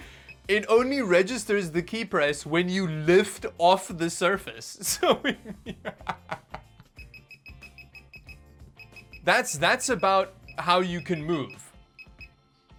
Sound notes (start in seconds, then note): 4.9 more laughing